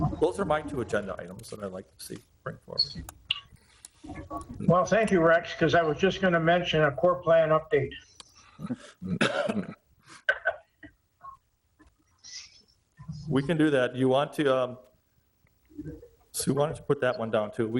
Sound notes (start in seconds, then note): 10.1 chuckles